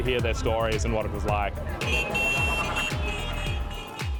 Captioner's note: horns beep